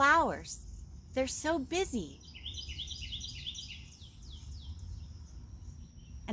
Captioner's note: birds chirping